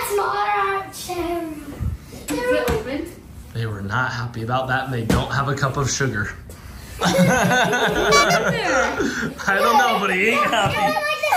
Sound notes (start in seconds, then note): 7.0 laughs